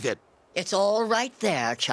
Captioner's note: none